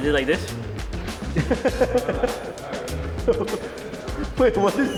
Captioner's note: player chuckling